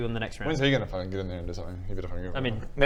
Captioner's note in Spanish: murmullos y quejas